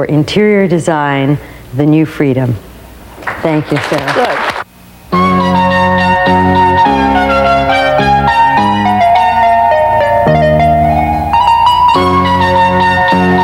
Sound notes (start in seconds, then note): 3.1 clapping